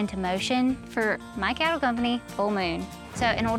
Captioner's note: none